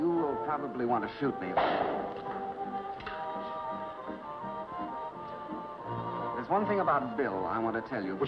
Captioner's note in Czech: lupnutí